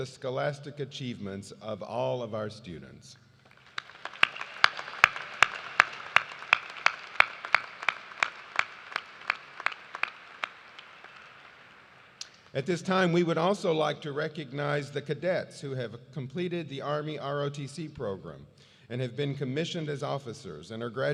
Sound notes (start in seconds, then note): 7.1 cheers and applause